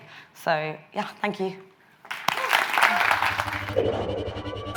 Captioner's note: audience claps